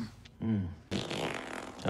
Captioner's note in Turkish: osuruk